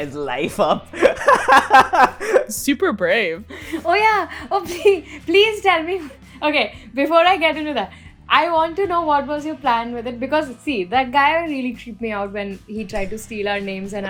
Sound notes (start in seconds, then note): 0.0 laughs; 0.9 laughter; 4.7 laughs